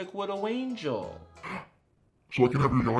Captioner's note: gasps